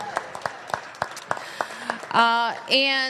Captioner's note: applause